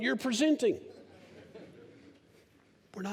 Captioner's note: laughter